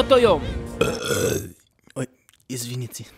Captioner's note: Belch